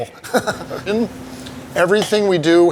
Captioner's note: laughing